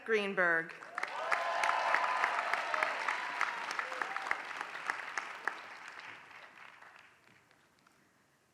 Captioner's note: applause